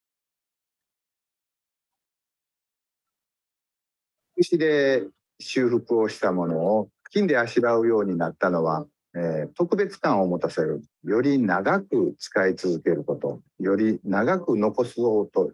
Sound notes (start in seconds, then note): 4.7 speaks in Japanese; 12.2 speaks in Japanese